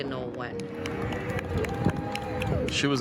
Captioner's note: crowd cheering